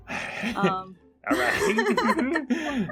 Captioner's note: laughs